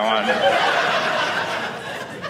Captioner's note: audience laughing